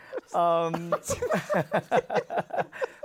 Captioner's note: laughter